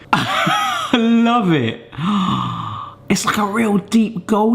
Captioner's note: winces; gasps